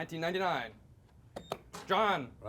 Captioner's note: beep